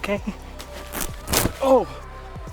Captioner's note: ripping fabric